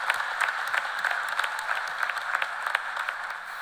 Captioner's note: cheers and applause